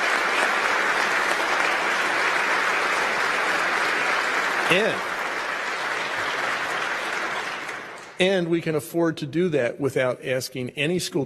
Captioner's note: applause